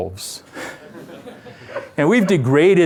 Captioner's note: laughter